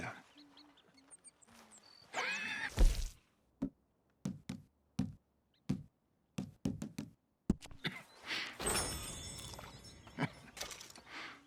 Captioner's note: Hosea coughs but also laughs satisfied, and leans back on his chair